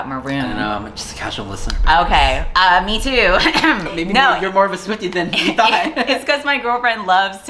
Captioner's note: cough